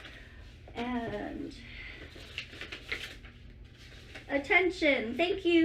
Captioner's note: shuffling and box noises